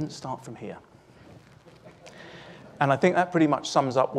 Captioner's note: chuckling